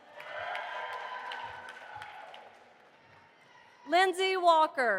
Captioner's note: audience applauding